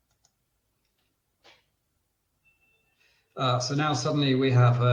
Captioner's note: clicks mouse